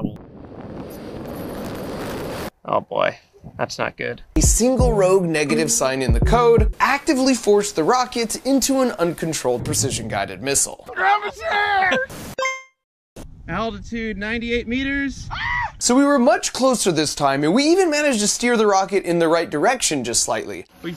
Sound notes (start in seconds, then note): 15.3 Mark Rober screams